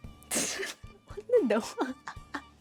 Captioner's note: laughs